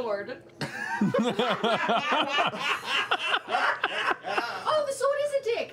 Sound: laughter

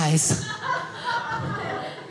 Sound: audience laughing

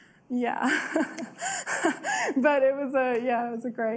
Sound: laughs

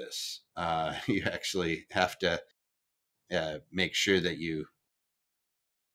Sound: chuckles

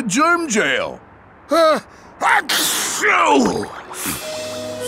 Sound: sneezing

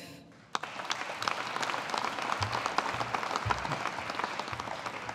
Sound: audience applauding

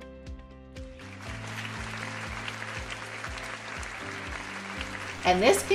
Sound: audience applauding

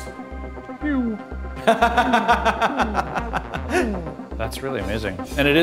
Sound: person laughing

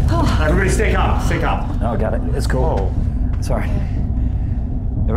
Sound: rumbling continues; rumbling fades; dark droning sound

